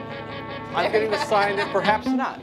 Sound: laughing

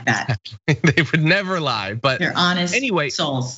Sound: laugh

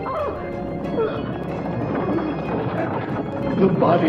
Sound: gears turning; taunting music

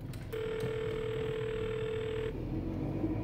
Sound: phone rings

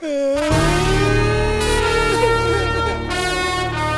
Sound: loud wail

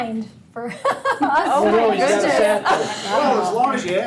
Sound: board members chattering

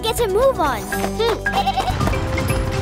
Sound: bleating

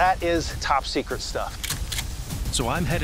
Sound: gun cocks

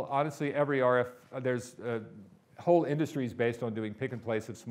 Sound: none

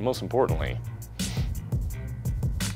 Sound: sniff

